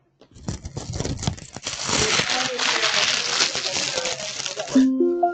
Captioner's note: microphone brushing; background chattering; electronic tones